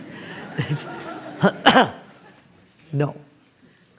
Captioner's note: laughter